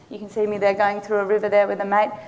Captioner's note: none